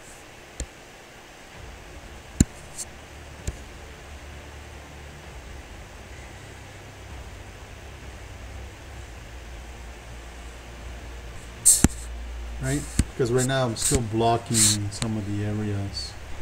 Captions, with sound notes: (computer mouse tapping) (faint techno music) Right, cause we're now still blocking some of the areas.